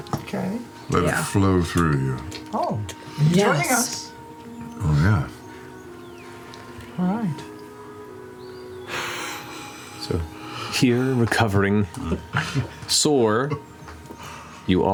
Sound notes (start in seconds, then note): 10.2 deep breathing